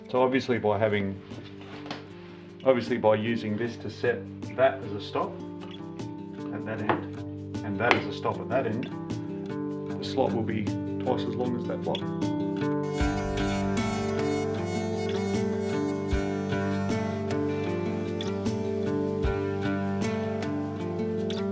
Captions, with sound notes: Obviously by using this to set that as the stop on that end, and that as a stop on that end, the slope will be twice as long as that block. (router buzzing) (soft guitar music)